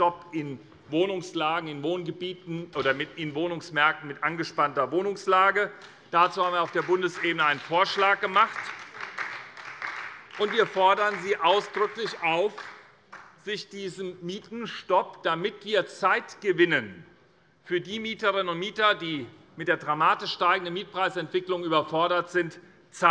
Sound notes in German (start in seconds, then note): 6.1 Beifall bei der SPD